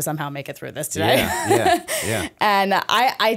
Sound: chuckle

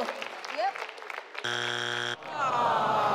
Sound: buzzer buzzes; audience groans

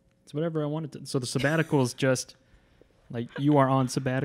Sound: laughs

